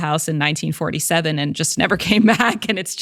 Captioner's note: laughs